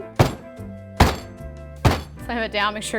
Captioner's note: pan thuds